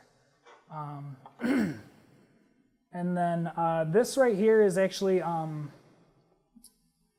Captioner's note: cough